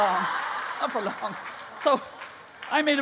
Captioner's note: laughing